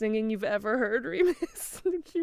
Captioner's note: laughs